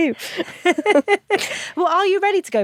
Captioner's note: both laugh